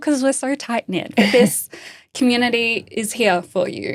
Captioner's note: laughing